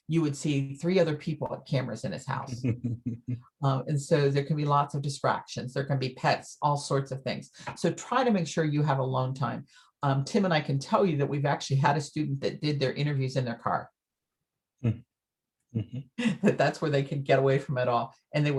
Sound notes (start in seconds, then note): 2.5 chuckles